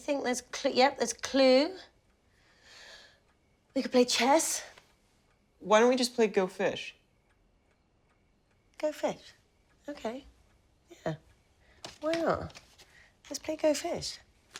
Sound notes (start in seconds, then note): none